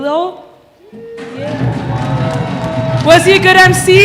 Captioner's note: applause